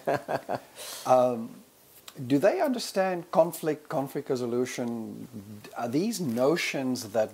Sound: laugh

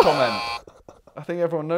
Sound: sad laugh

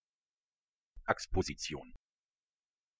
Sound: fast Pronunciation

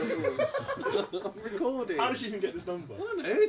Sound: laughing; all laughing

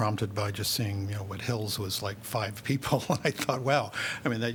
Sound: laughter

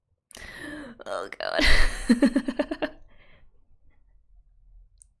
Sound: laughs

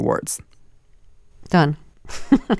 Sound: laughter

